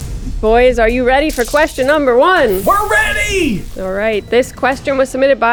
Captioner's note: none